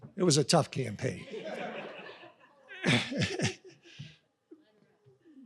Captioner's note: audience laughs